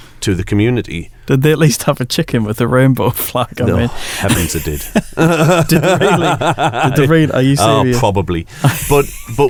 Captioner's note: laughs